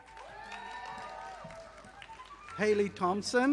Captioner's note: audience applauding